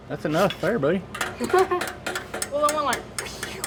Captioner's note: laugh